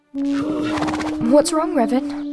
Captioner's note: Rory hums; Revin snorts